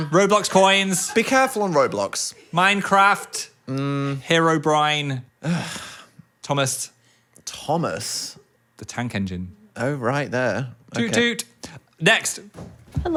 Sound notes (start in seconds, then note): 5.4 scoffs